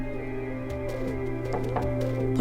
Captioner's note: loud Thumping; Knocking